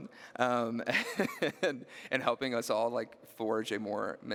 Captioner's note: laughing